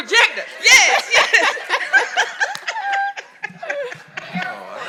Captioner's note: all laughing